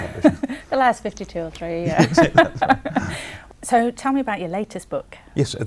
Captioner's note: laughing